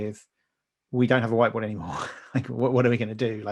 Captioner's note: laughing